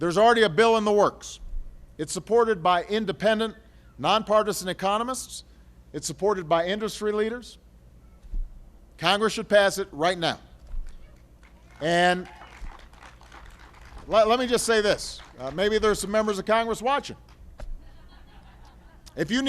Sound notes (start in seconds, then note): 11.4 applause; 17.7 laughter